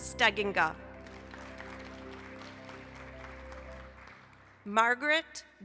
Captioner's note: applause